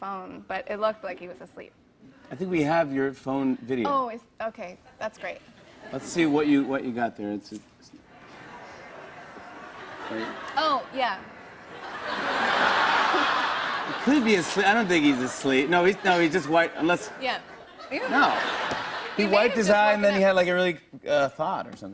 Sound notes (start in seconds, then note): 11.7 laughter; 17.4 laughter